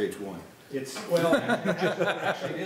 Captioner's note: laughing